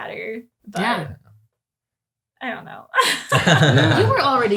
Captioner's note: laughs